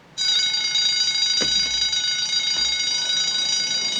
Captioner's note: bell rings